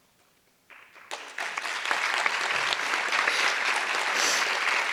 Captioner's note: audience applause